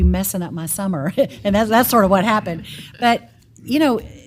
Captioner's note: laugh